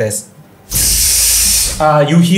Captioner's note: electric buzzing